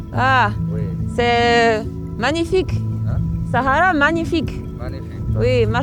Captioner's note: speaks foreign language